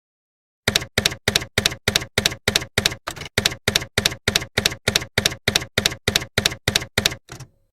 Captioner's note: typewriter keys clacking